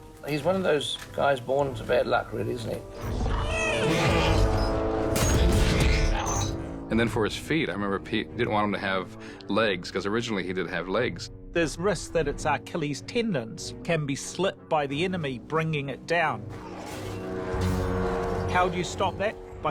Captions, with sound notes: He's one of those guys born into bad luck, really, isn't he? [GRUNTING] Then for his feet, I remember, Pete, he didn't want him to have legs... ...because originally he did have legs. There's a risk that its Achilles tendons can be slit by the enemy bringing it down. How do you stop that?